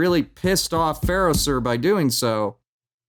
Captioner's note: thumps table